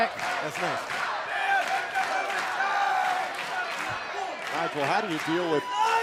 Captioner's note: fans chanting